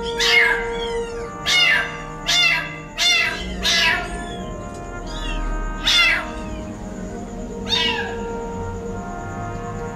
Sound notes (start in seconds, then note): 0.0 meows